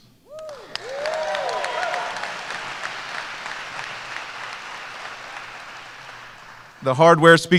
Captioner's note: applause